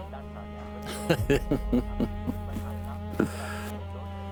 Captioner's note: laughing